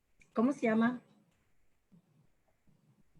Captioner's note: speaking Spanish